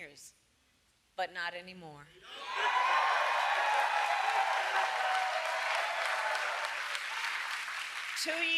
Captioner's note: applause